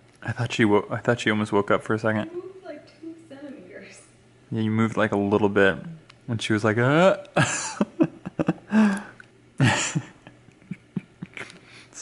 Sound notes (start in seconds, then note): 7.3 chuckling; 9.6 more chuckling